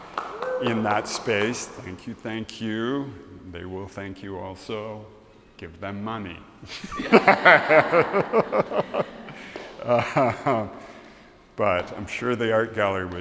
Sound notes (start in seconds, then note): 0.0 applause; 9.9 laughs